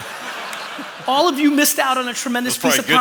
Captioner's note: laughter